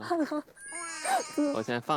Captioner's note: laughs